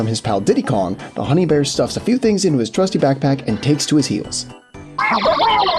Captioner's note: octopus laugh